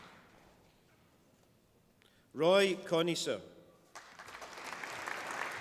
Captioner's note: applause